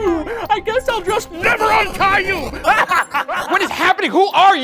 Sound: laughs

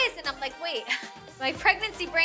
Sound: laughs

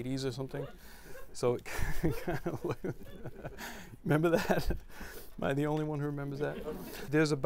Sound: laughrer

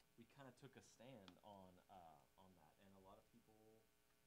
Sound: none

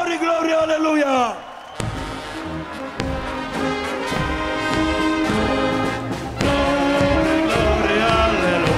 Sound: applause

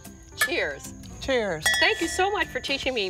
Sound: glasses clink

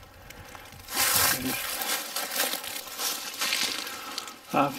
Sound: leaves rustling

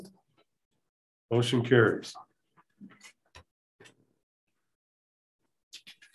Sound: silence

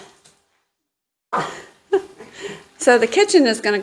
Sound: laughing

